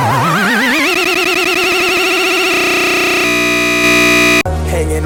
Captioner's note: stutter loop